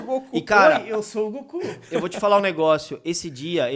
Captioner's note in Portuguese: risos